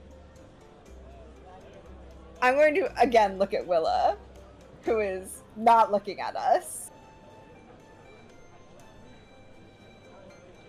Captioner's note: sighs